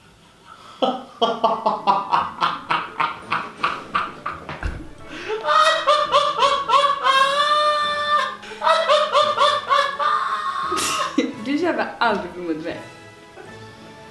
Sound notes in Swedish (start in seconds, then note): 0.8 skrattar